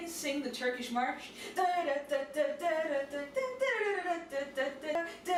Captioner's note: frenzied humming